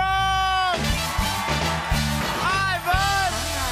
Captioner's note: cheers and applause